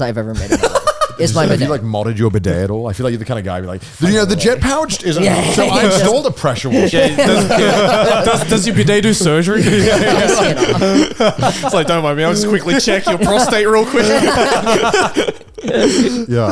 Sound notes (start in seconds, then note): 10.8 all laughing